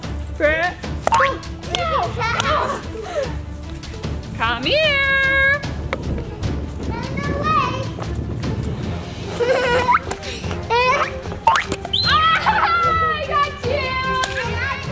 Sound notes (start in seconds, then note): 1.0 bouncing; 2.0 laughing; 9.3 giggling; 11.0 bouncing